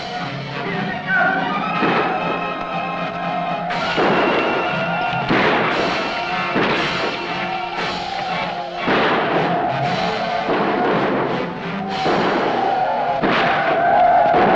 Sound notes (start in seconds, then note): 0.1 suspenseful music; 1.6 Yaqui shouting; 1.6 gunshots blasting